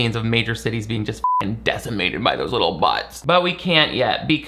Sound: beep

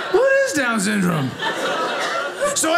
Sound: audience laughing

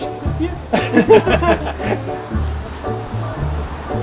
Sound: awkward laughter

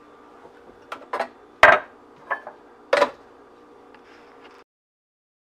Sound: glass clinks

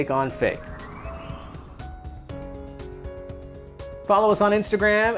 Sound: musical swoosh

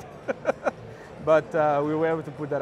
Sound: laughs

